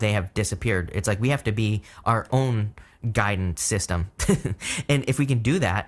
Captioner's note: chuckles